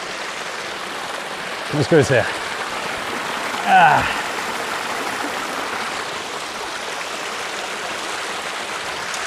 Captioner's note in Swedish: Applåder